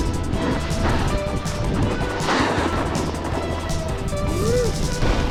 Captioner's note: boards and skis swishing